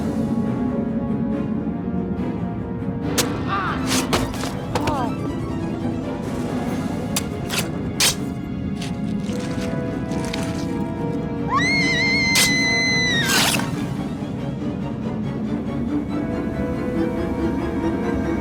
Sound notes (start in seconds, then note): 0.1 dramatic music continues; 3.4 sword squelches; 4.4 attacker grunts; 7.1 sword squelching; 7.3 dramatic music continues; 11.5 Brooke screams; 14.6 dramatic music continues